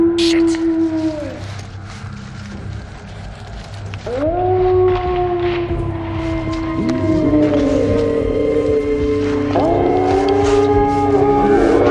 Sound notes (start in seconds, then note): 5.9 howl; 8.5 multiple howls